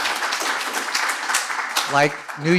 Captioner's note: applause